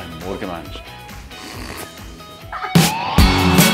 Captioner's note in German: lacht